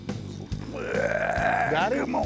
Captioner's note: grunting